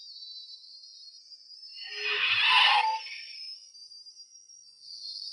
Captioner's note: tires squealing